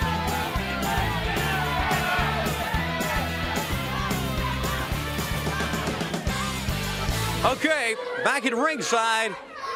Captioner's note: crowd cheering